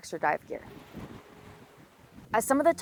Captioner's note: waves crashing